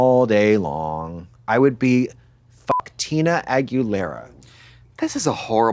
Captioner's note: beep